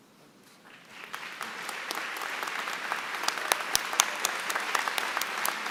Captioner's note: applause